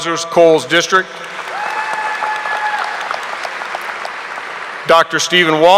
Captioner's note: audience applauding